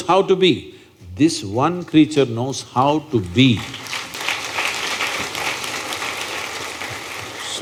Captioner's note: applause